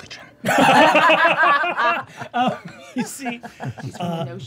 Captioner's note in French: rires